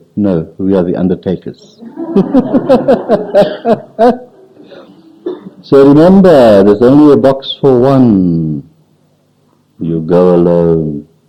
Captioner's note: laughs